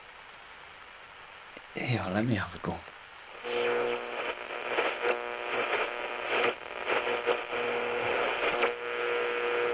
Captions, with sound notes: - Here let me have a go. (radio crackling) (static buzzing)